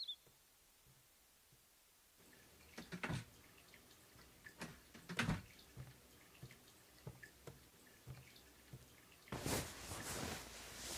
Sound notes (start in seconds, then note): 3.3 door opening and closing; 8.1 water running